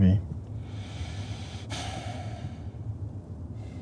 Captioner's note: sighs